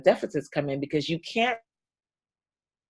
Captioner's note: audio drops out